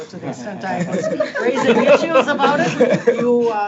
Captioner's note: board members laughing